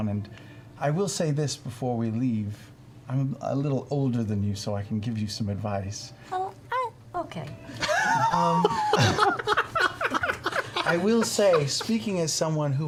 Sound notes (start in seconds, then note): 7.8 all laugh